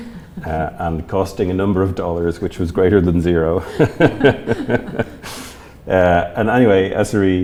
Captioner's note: laughs